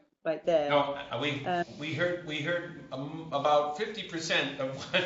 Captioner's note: laughter